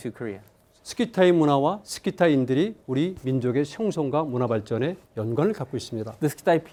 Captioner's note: speaking in Korean